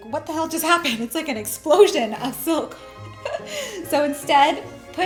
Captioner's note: laughs